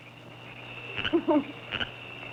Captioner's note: giggling